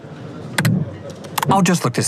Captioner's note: clicks